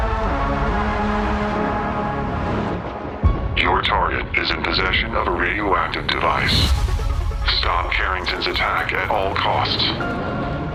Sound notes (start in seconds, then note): 0.2 tense electronic music; 3.6 distorted voice